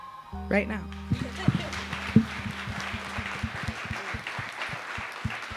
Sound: audience applauding

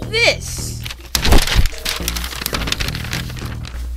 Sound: crinkling sounds

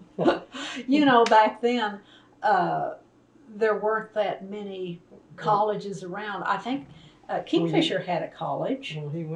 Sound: laughter

